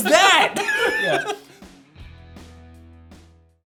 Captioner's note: laughs